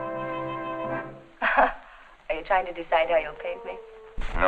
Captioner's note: chuckles